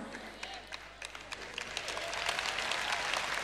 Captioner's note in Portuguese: audiência aplaude